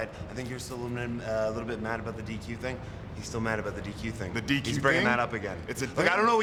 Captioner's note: none